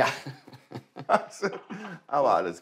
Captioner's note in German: Beide lachen